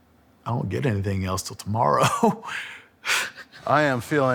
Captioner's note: laughing